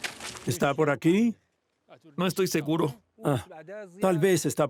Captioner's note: Arabic spoken audio